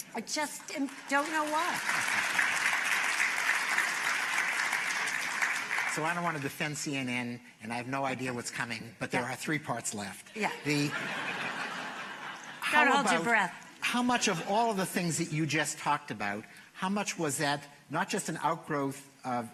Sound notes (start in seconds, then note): 2.0 applause; 10.5 laughter